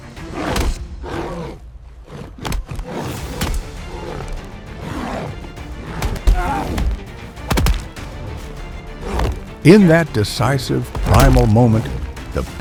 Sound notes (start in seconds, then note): 4.4 wooden sounds; 10.8 fire